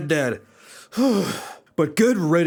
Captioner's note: sigh